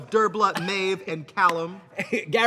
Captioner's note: Katya slapping leg